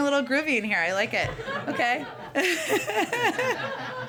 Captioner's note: laughter